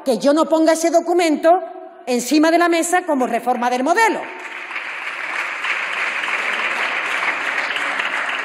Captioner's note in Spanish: Aplausos